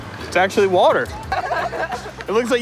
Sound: people laughing

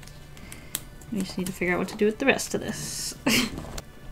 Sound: laughs

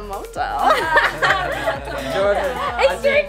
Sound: laughing

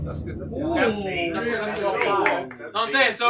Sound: all chattering

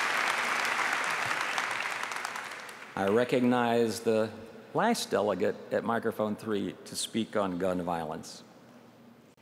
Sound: applause

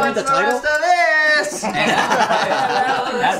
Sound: laughing

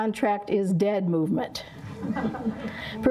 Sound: laughter

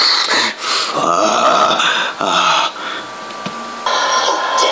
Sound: groaning

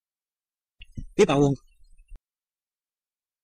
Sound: fast Pronunciation

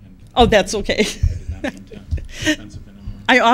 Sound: laughs

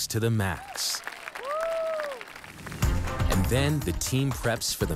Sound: crowd applauds

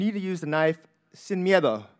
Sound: speaking in a foreign language

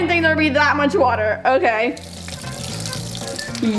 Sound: quirky music; water trickling

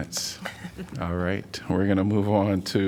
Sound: laughter

